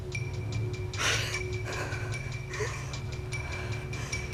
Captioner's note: breathing heavily